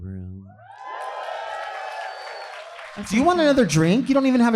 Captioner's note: audience cheering